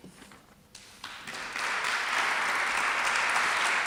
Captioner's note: applause